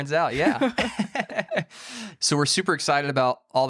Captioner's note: all laughing